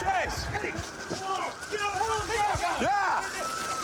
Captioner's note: officers yelling